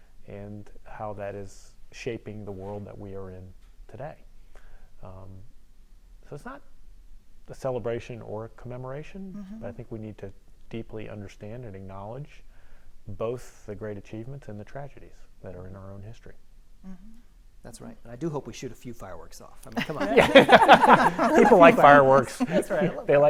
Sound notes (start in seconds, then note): 19.8 panelists laughing